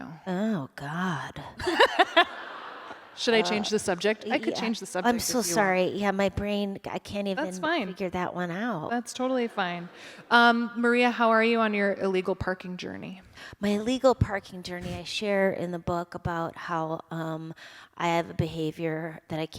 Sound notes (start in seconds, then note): 1.6 laughter